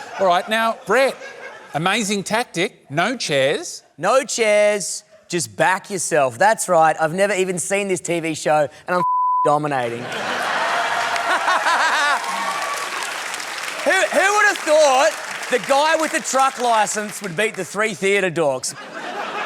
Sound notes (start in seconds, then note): 10.0 laughs; 10.9 cheering, applause